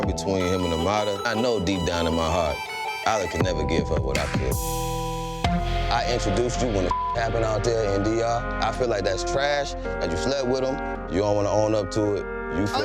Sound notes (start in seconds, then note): 5.8 tense music; 6.9 beep